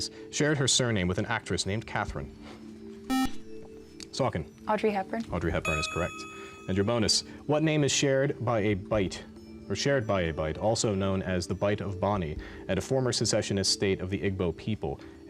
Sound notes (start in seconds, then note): 3.1 buzzer